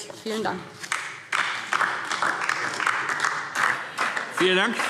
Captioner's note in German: Beifall DIE LINKE